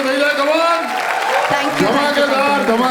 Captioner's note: crowd applauding